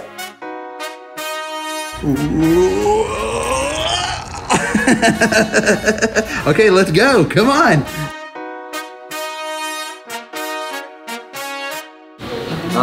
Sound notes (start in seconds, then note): 0.1 upbeat music; 5.0 laughs; 8.3 upbeat music continues